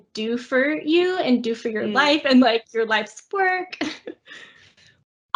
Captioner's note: laugh